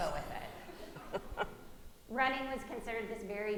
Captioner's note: audience giggling